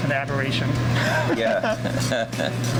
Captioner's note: laughs